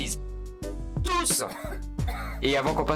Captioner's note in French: tousse